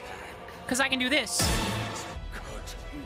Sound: Tony Hawk Stunt FX

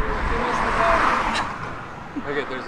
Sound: laughs

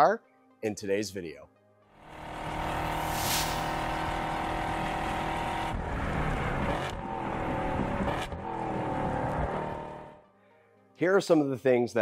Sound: engine Noises

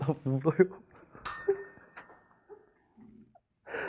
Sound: chime

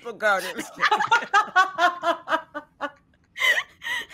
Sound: all laughing

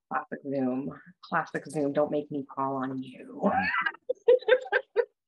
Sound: laughs

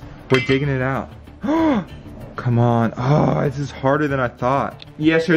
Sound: gasps

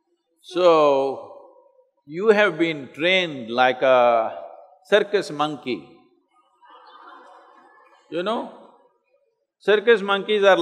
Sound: laughter

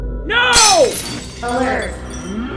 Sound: crash

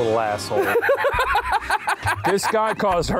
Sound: laughs

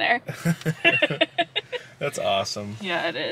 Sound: laughs

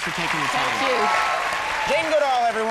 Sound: audience applauds

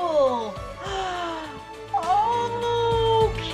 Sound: gasp

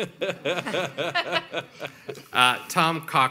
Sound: panel members laughing

